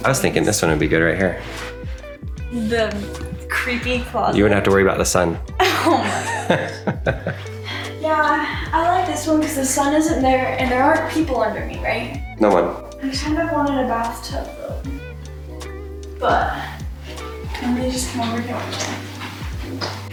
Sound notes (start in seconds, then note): 5.6 laughs